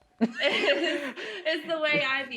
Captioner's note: laughing